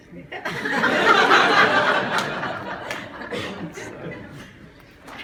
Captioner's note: laughter